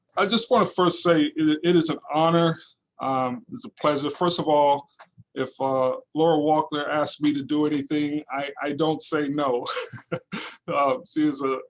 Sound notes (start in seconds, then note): 9.6 laughing